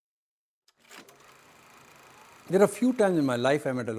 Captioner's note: film reel whirring